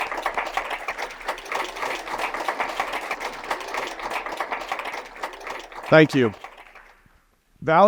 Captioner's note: applause